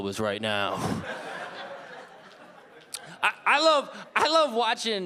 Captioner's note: audience laughing